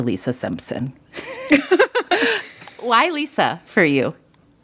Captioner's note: laughter